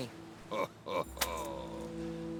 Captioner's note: laughs